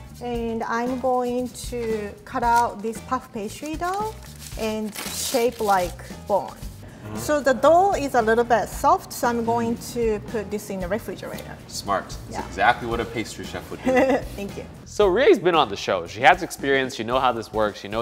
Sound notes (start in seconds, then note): 13.8 laughs